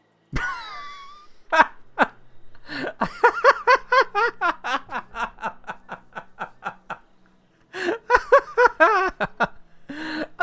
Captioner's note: wheezing laugh